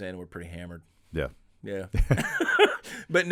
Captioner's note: laughing